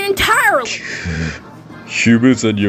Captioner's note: irritated